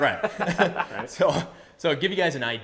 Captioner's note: laughs